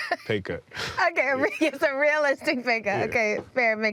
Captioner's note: laughing